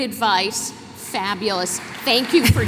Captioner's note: applause